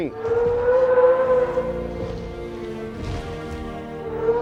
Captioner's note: dinosaur roaring